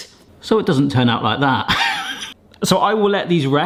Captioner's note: laughs